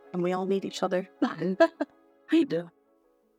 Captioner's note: laughing